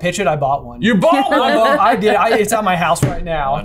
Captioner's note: laughs